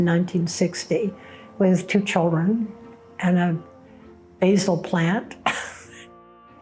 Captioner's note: chuckles